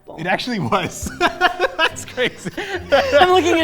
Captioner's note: laughing